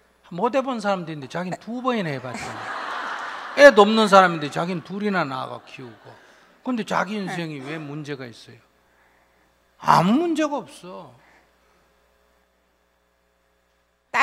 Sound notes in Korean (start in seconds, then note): 2.1 청중 웃음